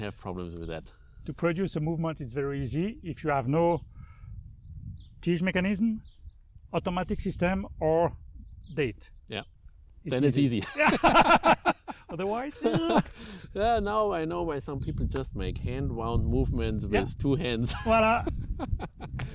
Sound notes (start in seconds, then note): 10.5 laughter